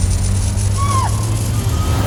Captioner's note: whoosh of light; shrieks; neighing & fluttering